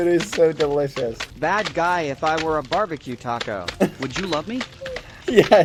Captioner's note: text-to-speech